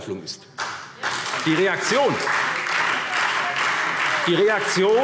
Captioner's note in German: Beifall SPD und Freie Demokraten